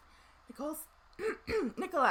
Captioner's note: clears throat